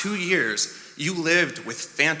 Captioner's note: none